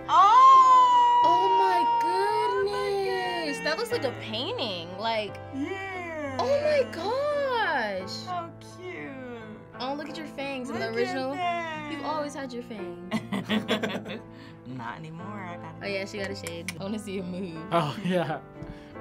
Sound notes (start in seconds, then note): 1.0 gasps; 13.1 both laugh